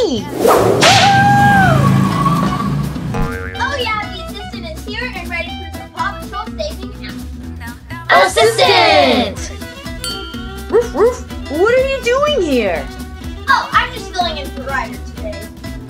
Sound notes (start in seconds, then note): 8.3 crowd; 10.7 Chase barking